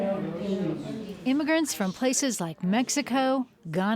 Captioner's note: voiceover